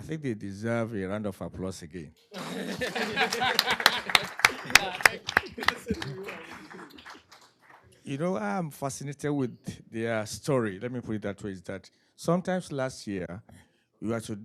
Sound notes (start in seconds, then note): 2.4 applause